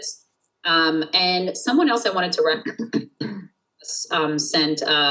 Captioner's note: clears throat